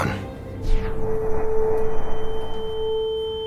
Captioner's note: static whoosh, ear ringing